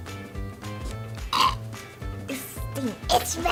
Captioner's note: gags